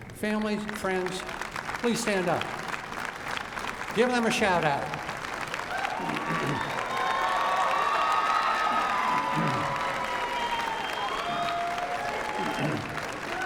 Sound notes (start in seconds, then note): 5.0 cheering and applause